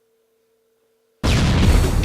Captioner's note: explosion